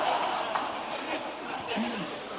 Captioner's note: laughter